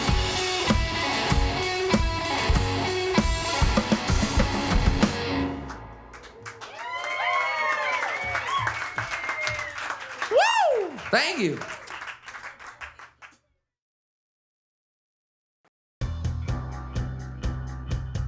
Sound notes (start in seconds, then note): 3.2 upbeat music; 5.6 upbeat music; 7.7 crowd cheers and claps; 10.6 crowd; 13.1 applause